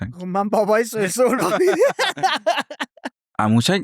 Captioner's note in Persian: خنده